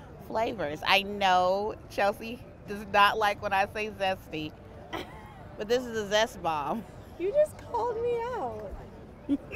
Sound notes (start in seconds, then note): 4.9 laughs; 9.3 laughing